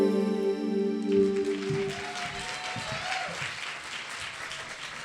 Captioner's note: bright tune; audience applauds